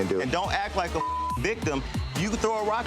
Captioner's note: beep